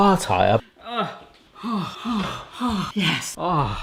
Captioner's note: exclaiming in awe